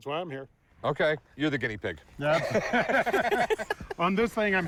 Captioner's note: laughs